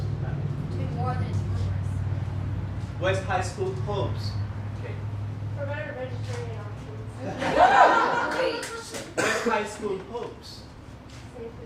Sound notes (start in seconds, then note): 7.2 laughter